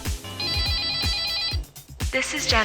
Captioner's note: phone ringing